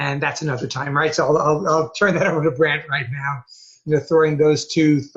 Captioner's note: laughing